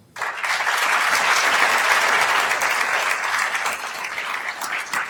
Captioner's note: attendees applauding